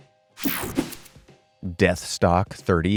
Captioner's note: graphic whooshing